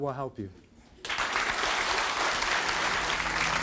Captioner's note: applauding